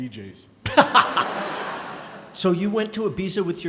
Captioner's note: laughing